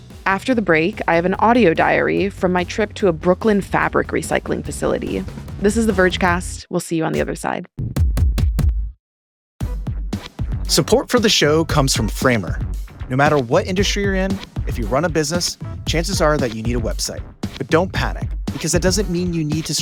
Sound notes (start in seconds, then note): 10.8 voiceover